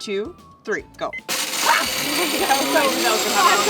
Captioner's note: blender starts